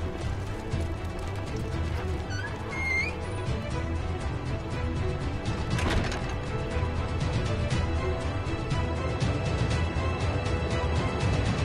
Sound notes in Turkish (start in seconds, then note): 2.2 Kapı Kapanma Sesi